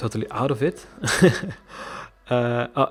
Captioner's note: laughing